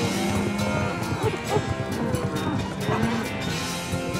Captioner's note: dog barks